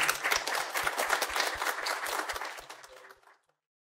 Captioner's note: applause